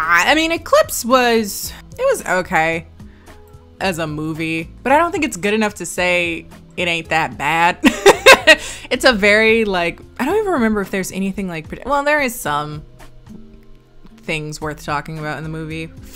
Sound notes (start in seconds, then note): 7.9 laughs